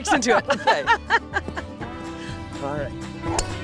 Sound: both laughing

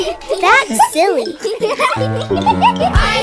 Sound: giggles

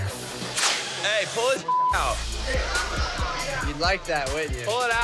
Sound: beep

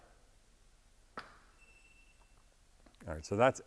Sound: meter beeps

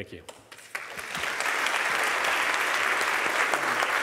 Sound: applause

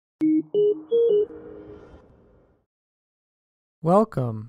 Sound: sound effects playing

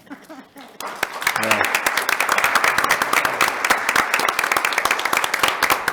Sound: board members laughing; attendants applauding

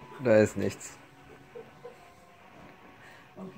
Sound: laughs

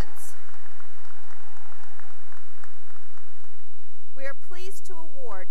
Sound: cheering and applause

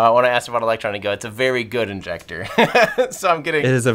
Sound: laughs

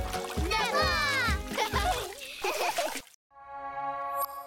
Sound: laughter

